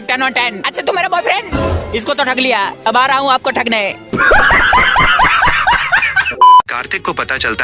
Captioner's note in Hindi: हंसी